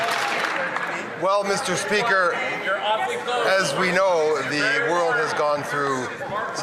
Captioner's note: some Applause